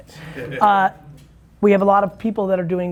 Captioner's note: group laughing